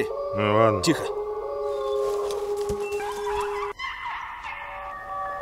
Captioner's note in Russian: плач волка